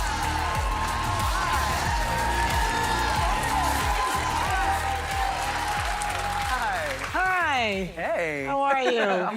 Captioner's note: cheers and applause